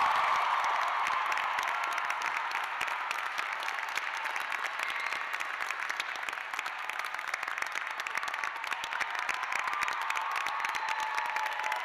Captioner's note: cheers and applause